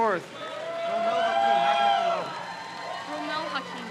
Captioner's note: crowd cheers